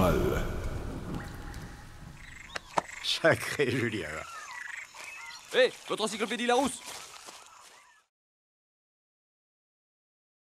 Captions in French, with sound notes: (Extrait audio du Grand Détournement) - Sacré Julien ! - Hé ! Votre encyclopédie Larousse !